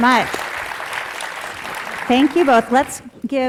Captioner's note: audience applauding